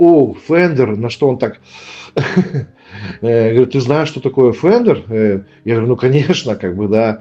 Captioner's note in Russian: смех